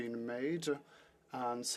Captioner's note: speaking French